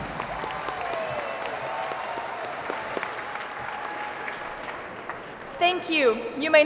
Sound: cheering

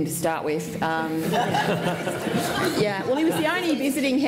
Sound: laughter

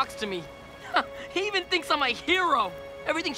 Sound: chuckles

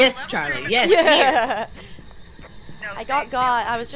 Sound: laugh

